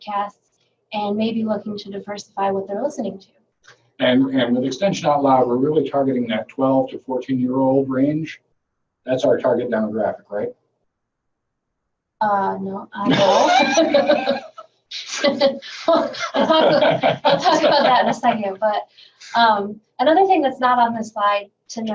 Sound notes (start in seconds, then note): 13.0 laughing loudly; 15.0 laughing